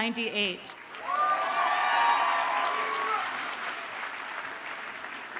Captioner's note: audience cheers and applauds